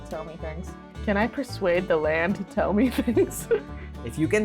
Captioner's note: laughs